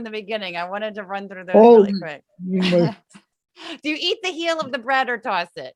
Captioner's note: laugh